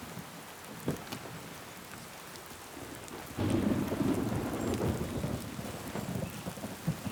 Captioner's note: rain pattering; thunder rumbling